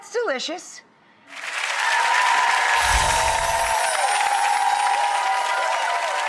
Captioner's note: audience applauding and cheering